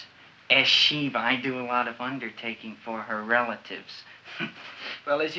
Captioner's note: chuckles